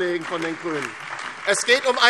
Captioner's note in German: Beifall DIE LINKE, SPD und Freie Demokraten